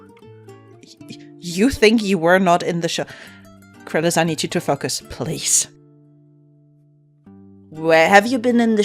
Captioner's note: laughs